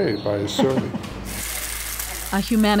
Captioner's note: food sizzling